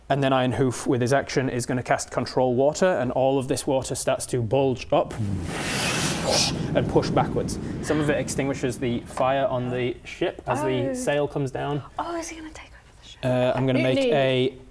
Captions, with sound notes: And then Ironhoof with his action is going to cast control water and all of this water starts to bulge up *bwooooosh* and push backwards Some of it extinguishes the fire on the ship as the sail comes down - Ohh Oh is he going to take over the ship? I'm going to make a - Mutiny!